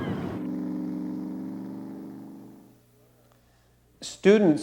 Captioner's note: boat motor rumbling